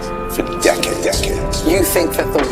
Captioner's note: echoing